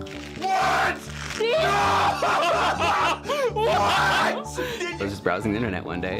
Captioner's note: laughing